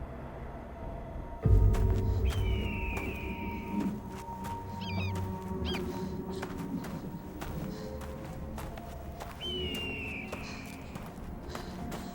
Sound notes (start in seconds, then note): 2.2 bird cawing; 5.1 woman panting